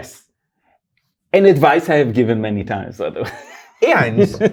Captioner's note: laughs